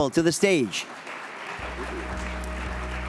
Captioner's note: audience applauds